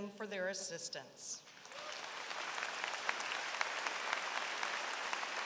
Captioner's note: applause